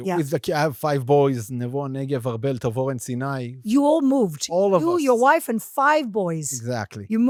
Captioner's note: speaking in foreign language